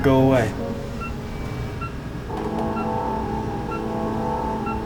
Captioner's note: machine beeping